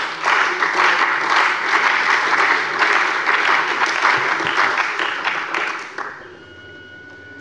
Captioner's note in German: Beifall bei der CDU und dem BÜNDNIS 90/DIE GRÜNEN